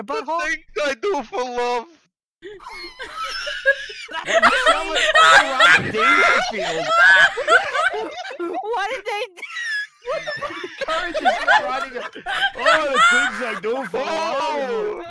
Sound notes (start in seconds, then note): 2.5 everybody wheezes again; 9.9 wheeze; 11.1 laughter and noises